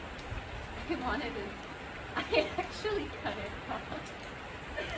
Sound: laughs

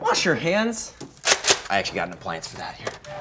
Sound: gun cocking

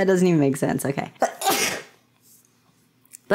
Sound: sneeze

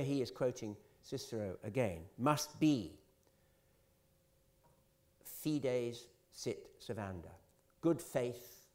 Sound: italian

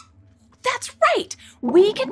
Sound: squeaks squeaks

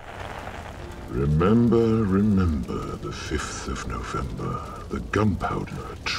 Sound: voiceover

